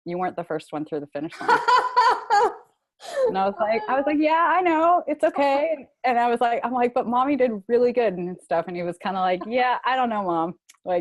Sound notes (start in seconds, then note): 1.3 laughter